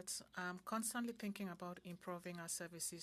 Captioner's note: speaking French